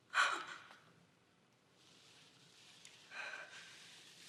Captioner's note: Karen shudders